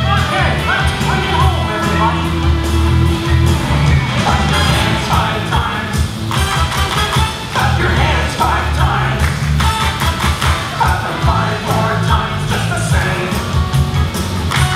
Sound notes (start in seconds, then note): 6.3 clapping; 9.2 clapping; 14.3 clapping